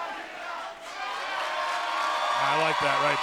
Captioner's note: cheers